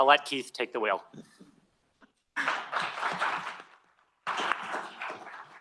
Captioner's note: applause